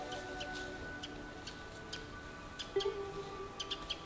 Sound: bird chirping

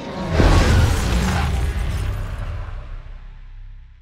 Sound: air whooshing

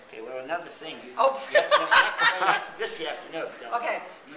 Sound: laughter

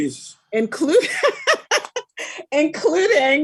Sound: laughing loudly

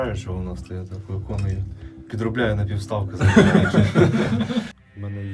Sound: laughter

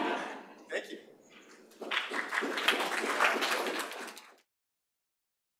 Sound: applause

